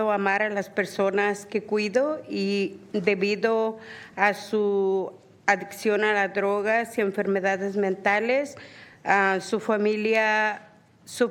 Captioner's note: speaking spanish